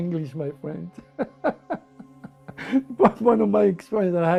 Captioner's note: laughs